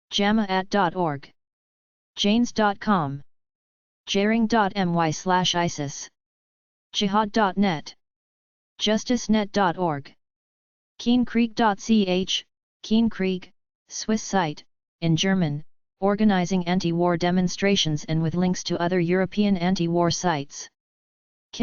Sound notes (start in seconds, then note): 13.4 in German